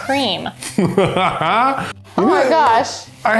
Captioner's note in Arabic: يضحك